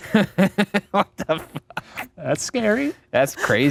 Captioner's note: laughs